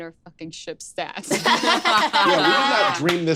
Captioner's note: laughs